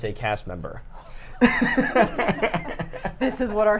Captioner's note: laughs